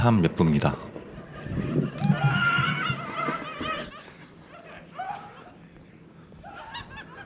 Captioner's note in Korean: 신난 학생들 환호성